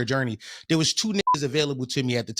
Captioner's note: beep